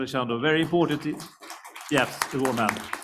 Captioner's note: applause